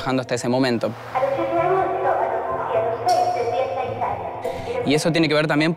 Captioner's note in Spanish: Voz de mujer por altavoz